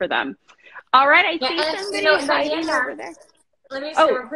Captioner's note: both mumbling